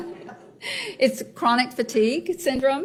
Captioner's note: laughs